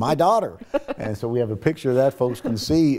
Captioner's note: laughing